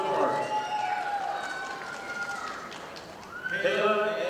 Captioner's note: audience applauding